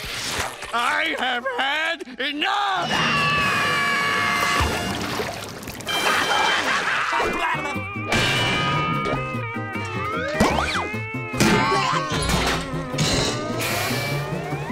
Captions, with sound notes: I have had enough! [screaming] [screaming]